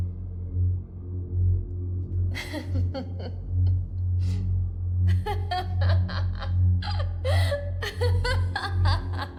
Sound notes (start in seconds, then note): 5.1 John laughs; 5.1 Kate laughs; 6.8 Mike laughs